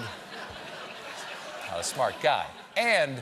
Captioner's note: laughter